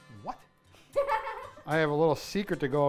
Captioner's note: laughing